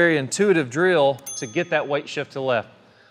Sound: button beeps

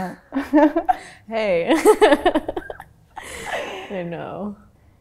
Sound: laughter

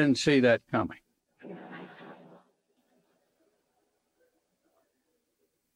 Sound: audience laughing

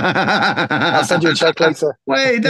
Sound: laughing

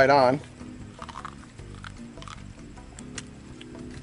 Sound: crunching

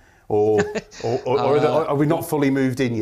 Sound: chuckle

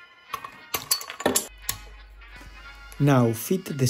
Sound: tools clatter

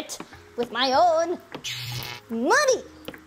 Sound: electricity sparking

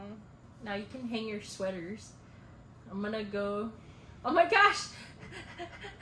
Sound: laugh

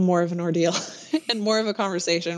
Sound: laughter

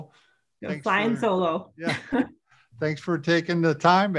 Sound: laughs

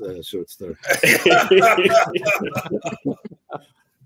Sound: laughs

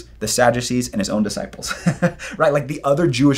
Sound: laughs

